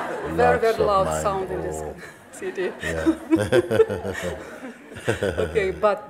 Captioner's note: smiech; smiech